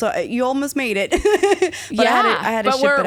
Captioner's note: laughing